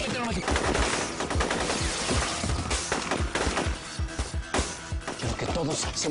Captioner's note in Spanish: Disparos